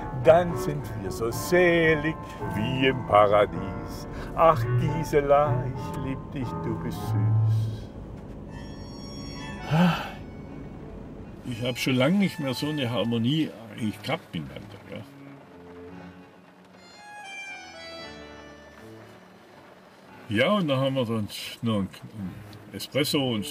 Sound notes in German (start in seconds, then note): 9.6 seufzt; 15.8 Langsame Musik, Regentropfen